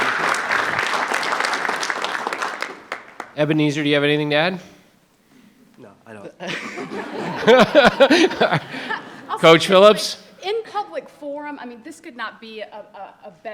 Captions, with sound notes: - Ebenezer, do you have anything to add? - No, I don't. (audience laughing) Coach Phillips? - In public forum, I mean, this could not be a better match,